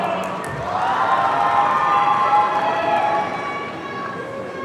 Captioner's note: audience cheering